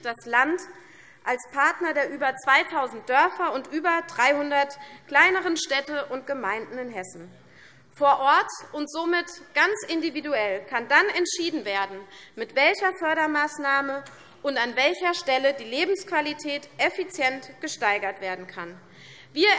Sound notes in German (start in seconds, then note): none